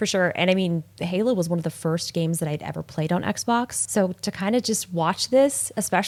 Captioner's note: none